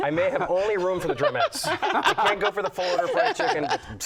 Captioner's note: laughter